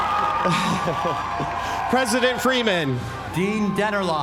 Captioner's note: laugh